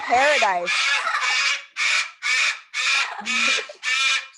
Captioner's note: parrots chirping